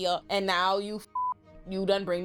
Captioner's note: beep